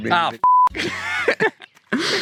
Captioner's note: beep; laughter